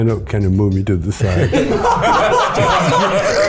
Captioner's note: group laughs